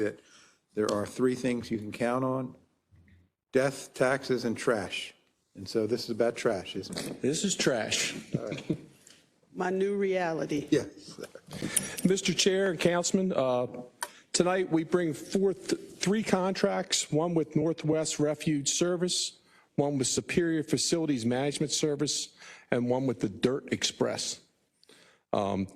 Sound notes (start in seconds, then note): 8.0 laugh